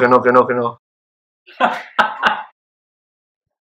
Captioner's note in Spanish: Néstor ríe